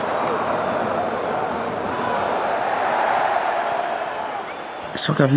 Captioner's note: crowd buzzing